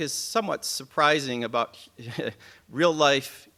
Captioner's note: chuckles